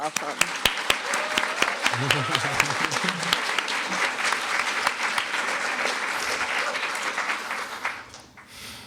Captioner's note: applause